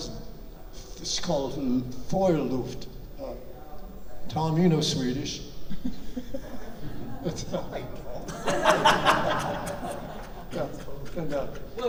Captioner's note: chuckles